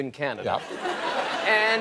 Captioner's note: laughter